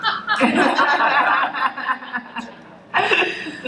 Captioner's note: laughter